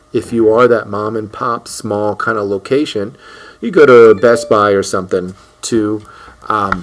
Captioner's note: computer ding